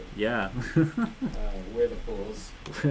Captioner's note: laughs